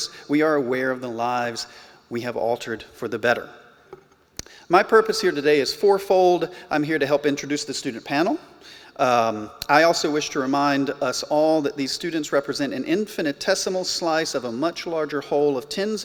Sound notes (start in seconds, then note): none